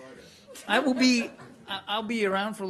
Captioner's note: laughter